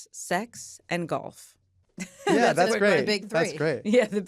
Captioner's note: laughs